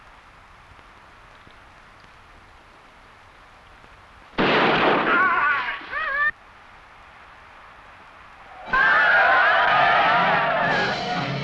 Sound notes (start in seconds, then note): 4.2 warrior groaning; 4.3 gunshot blasting; 5.8 animal calling; 8.5 Yaqui shouting; 9.8 suspenseful music